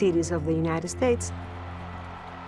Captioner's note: audience cheers